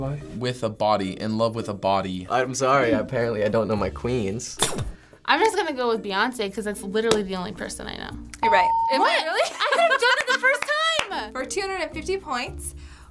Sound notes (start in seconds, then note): 8.5 ding